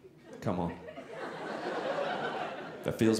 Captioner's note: audience laughing